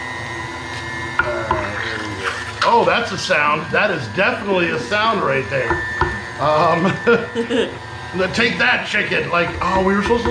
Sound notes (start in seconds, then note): 1.8 chicken squelching; 6.5 chuckling